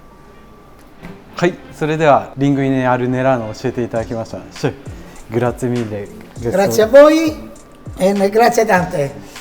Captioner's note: Italian